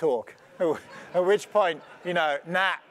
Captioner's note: laugh